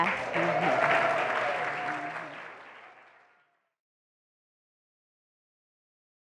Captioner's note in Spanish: Aplausos